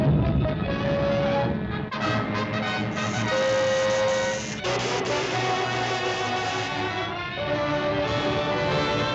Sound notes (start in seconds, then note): 2.9 electricity zaps